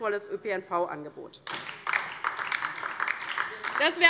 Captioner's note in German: Beifall DIE LINKE